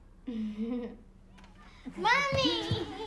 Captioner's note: Lena giggles